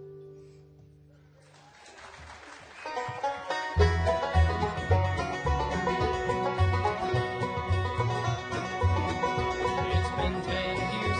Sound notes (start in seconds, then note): 3.5 audience applauding; 5.4 upbeat bluegrass music